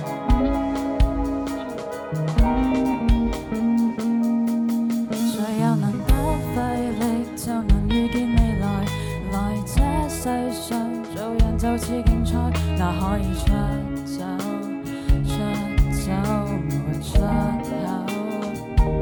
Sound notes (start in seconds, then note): 5.5 Cantonese; 6.3 sings